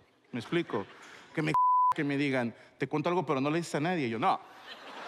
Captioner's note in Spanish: bip